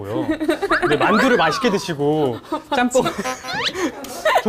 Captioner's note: weird laugh